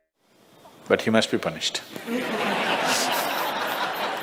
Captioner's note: smích